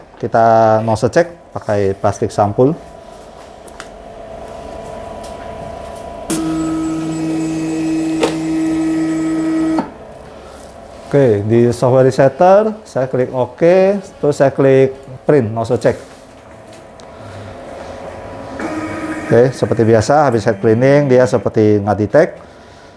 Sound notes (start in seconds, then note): 6.0 printer machine noise; 17.7 printer machine noise